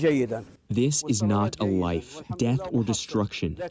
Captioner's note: through translator